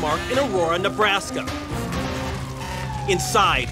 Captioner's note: siren wailing